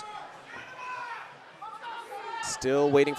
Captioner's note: audience cheering